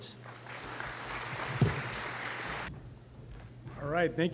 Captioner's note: applause